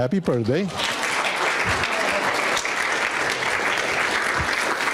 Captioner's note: audience applauding